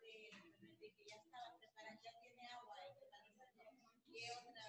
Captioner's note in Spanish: conversación de fondo